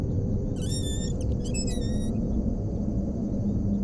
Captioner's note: door creaking